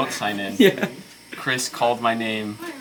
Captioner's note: laughing